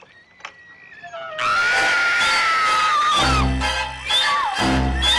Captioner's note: scream